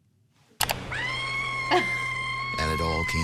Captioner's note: character screaming